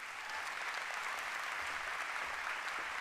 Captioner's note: applause